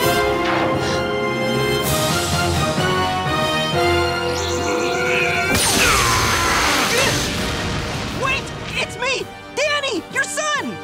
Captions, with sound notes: [gasps] [grunting] Wait, it's me! Danny, your son!